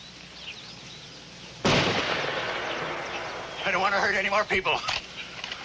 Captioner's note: gun shot